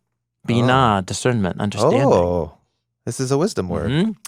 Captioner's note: speaks in Hebrew